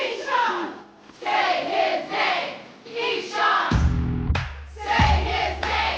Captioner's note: crowd